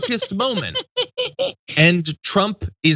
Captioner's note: laugh